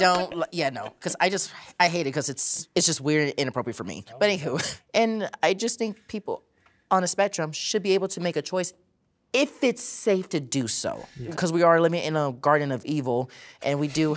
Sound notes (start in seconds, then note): 4.7 chuckling